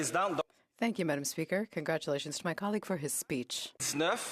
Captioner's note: speaking French